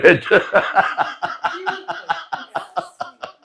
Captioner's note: laughter